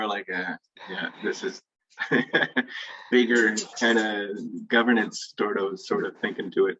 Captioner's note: laughs